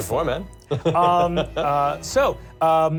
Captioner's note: laughter; laughs